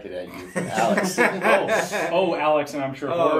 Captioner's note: laughing